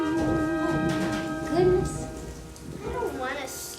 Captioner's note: rain pattering; thunder rumbling; lightning cracking